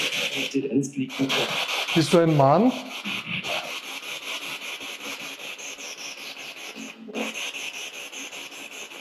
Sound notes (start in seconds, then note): 0.0 radio noise from the spirit box; 3.0 radio noise from the spirit box